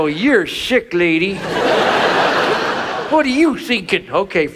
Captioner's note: audience laughs